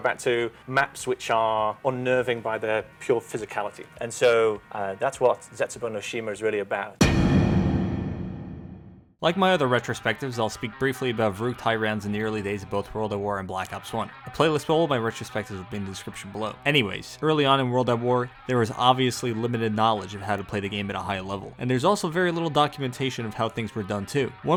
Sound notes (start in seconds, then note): 7.0 impact sound effect